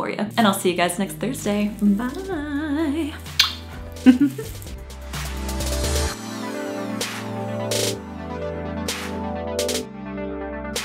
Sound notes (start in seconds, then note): 4.0 giggles; 4.8 upbeat electronic music